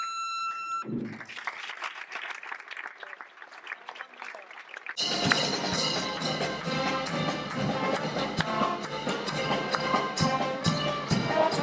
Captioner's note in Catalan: Aplaudiment